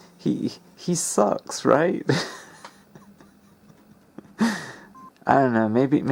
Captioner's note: laughs